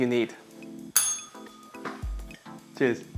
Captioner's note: bell rings